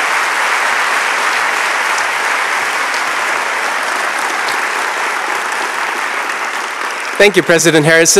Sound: applause

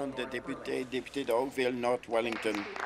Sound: some applause

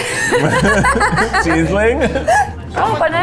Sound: laughing

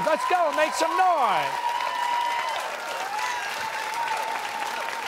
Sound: cheers and applause

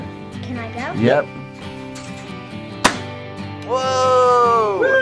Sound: nail gun fires

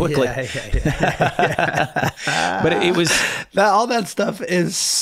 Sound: all laughing

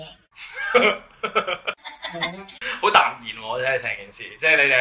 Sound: laugh

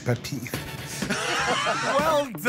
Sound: laughter

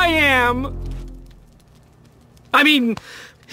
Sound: awkward silence

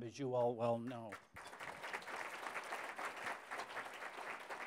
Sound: applause

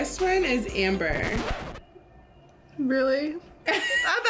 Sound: record scratching

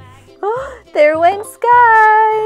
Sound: blowing air; gasps

